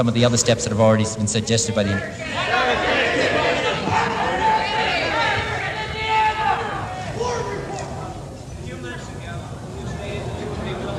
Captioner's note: voices from the crowd